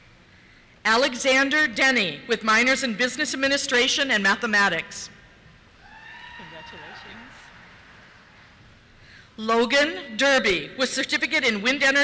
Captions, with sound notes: Alexander Denny, with minors in Business Administration and Mathematics. (cheers) Congratulations. Thank you. Logan Derby, with certificate in Wind Energy,